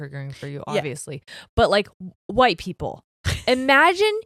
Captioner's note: chuckles